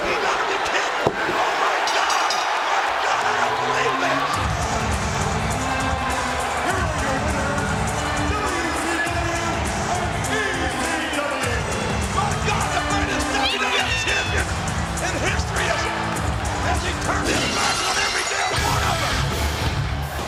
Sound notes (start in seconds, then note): 0.1 bell dinging; 0.1 overlapping chatter; 5.0 upbeat music; 7.8 announcer speaking faintly off mic; 12.6 presenter speaking faintly off mic; 17.5 glass shattering; 18.4 rock music